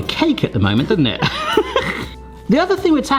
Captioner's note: laughter